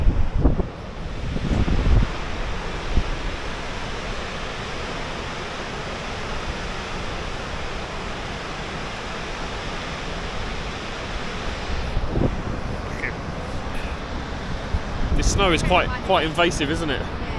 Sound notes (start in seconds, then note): 1.6 waves crashing